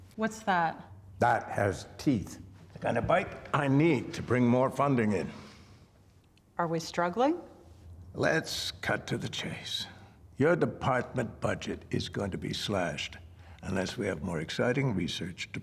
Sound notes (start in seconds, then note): none